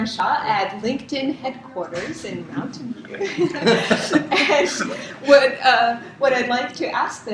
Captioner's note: laugh